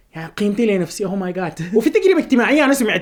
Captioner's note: laughter